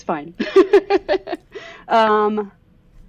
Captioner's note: laughter